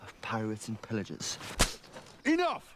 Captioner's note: hand slaps